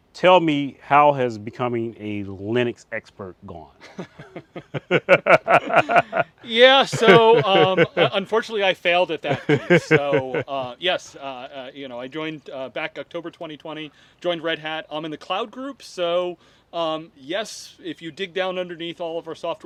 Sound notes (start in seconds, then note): 3.8 laughs together; 6.5 continues laughing; 9.7 still laughing